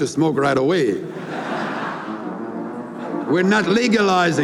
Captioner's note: laughter